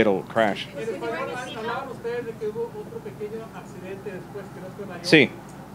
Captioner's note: reporter in Spanish